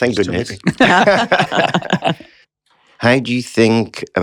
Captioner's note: laughter